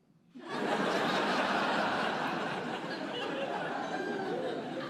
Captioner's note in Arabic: ضحك